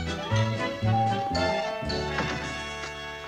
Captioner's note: doorbell rings